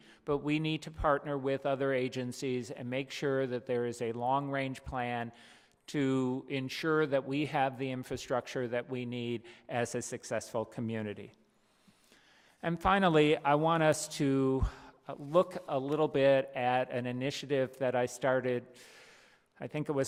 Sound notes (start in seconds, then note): none